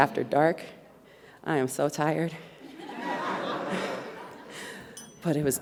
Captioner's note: audience laughs